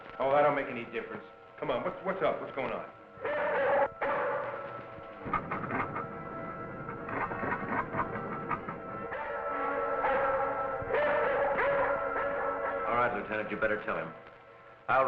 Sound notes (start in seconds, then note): 3.2 Venus barking